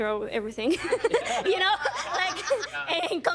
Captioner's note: laughing